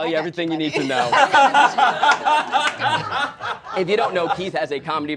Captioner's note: all laughing